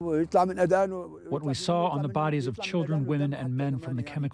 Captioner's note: through translator